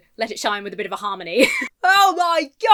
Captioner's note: laughs